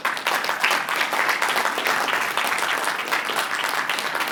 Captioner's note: applause